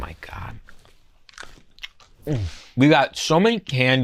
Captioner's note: candy crunches